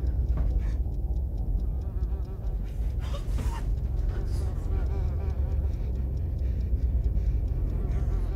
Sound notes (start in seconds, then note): 4.7 flies buzzing